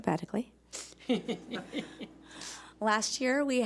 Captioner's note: chuckling